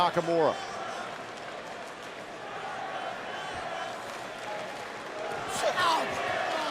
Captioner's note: crowd cheering